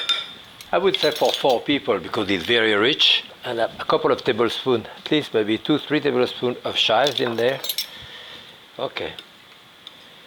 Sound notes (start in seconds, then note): 0.1 utensil tapping; 6.9 utensil clanging